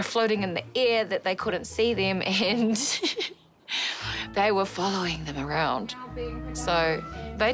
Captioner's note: laughs